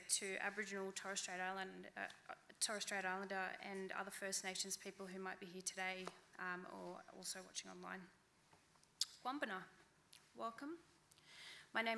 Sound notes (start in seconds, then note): 9.4 speaking in foreign language